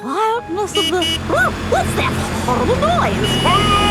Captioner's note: honking